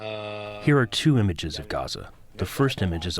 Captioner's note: through translator